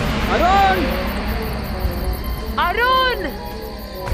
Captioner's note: both Screams